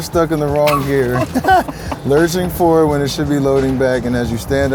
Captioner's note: laughs